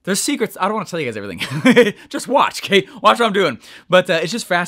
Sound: laughing

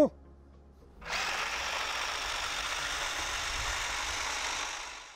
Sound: robot whirring

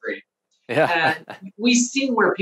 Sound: chuckling

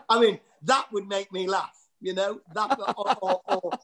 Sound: whispers

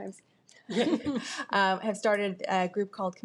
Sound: board members chuckle

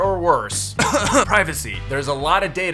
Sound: cough

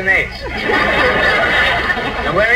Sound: audience laughs

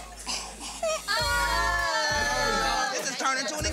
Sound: all cheering

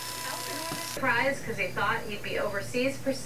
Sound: television Voice

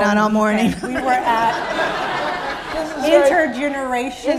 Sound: laughter

